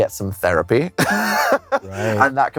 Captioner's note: laughs